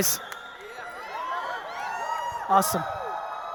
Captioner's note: audience cheering